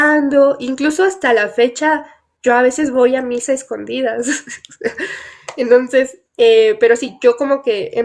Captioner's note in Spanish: risas